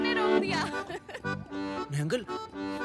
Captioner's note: Laughs